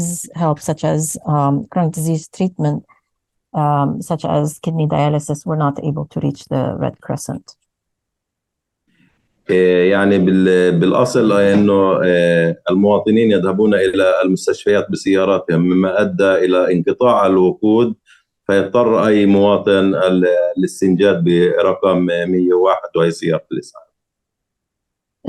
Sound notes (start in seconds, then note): 9.4 speaking arabic